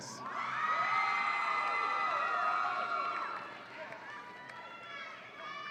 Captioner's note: audience applauds and cheers